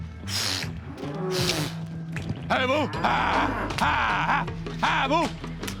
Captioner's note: yelling